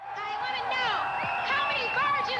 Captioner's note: shouting